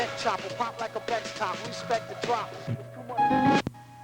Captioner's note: ship's Whistle Blowing